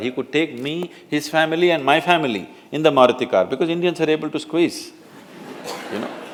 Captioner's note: laughter